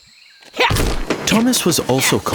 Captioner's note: saw warbling; wood clattering